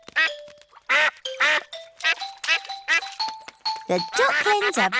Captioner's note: ducks and ducklings quack; ducklings quack